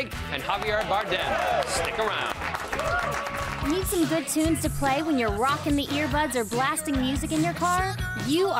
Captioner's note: applause